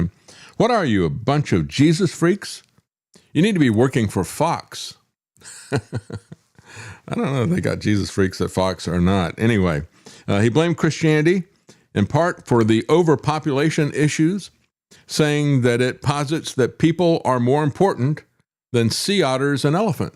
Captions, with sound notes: "What are you, a bunch of Jesus freaks? "You need to be working for Fox." (Laughs) I don't know if they got Jesus freaks at Fox or not. Anyway, he blamed Christianity in part for the overpopulation issues saying that it posits that people are more important than sea otters and elephants.